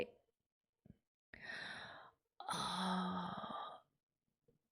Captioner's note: inhales